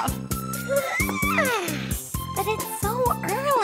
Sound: yawns

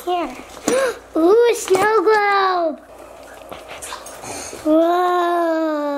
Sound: gasps

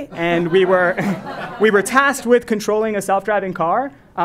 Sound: laugh

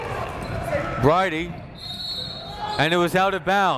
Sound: whistle

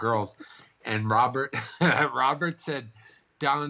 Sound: chuckles

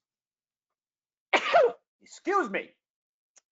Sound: sneezing

